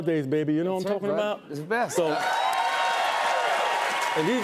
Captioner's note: cheers and applause